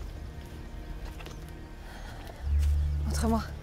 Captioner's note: Ellie pants; Ellie speaks in French